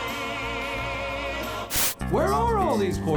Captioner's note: static